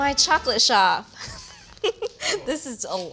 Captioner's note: laughs